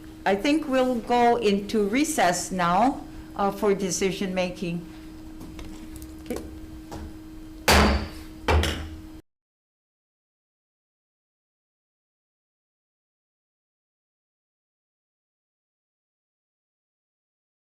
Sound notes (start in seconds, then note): 7.7 gavel slamming the block